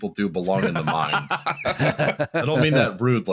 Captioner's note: laughs wholeheartedly